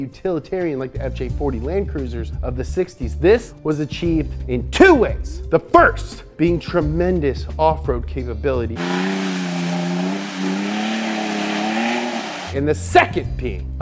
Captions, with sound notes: utilitarian like the FJ-40 Land Cruisers of the '60s. This was achieved in 2 ways: The first being, tremendous off-road capability. [engine roaring] And the second being,